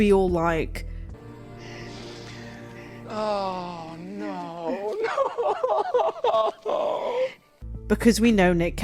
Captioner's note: Rick Grimes sobs